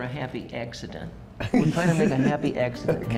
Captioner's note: laughs